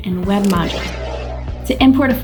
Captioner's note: air whooshing